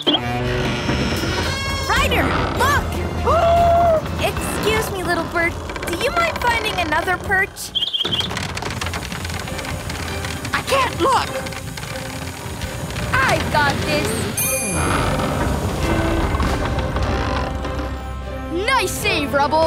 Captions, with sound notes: [creaking] Ryder, look! [gasping] Excuse me, little bird. Do you mind finding another perch? [chirping] I can't look. I've got this. Nice save, Rubble.